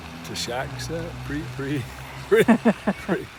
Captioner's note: car engine revving; laughs